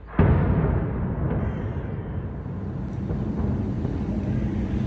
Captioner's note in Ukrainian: вибух